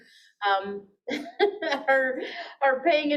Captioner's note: chuckles